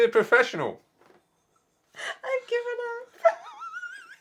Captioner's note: laughing and wheezing